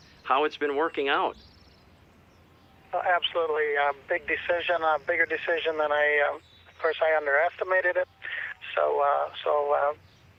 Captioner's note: engine droning